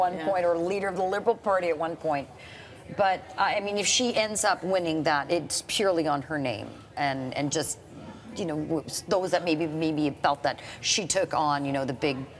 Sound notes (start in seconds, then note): none